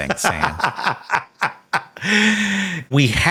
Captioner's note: Sam laughing